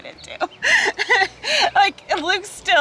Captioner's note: laughing